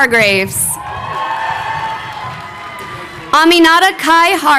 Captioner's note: crowd cheering